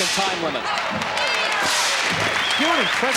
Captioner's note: cheering